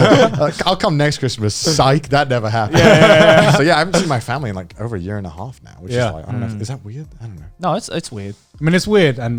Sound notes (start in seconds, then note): 2.6 all laughing